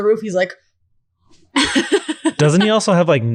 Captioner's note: laughing